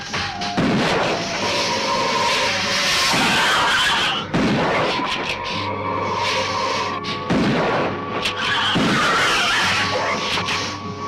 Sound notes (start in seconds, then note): 0.5 gun firing; 4.4 gun firing; 8.3 lizard screeching